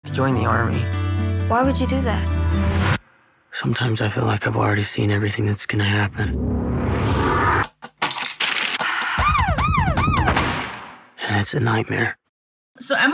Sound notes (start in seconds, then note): 8.8 clock ticking; 9.2 siren wailing